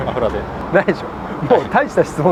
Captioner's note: laughs